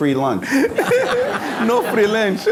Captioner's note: laughter